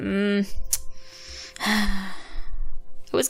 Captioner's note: sigh